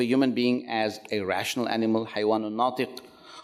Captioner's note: speaks Arabic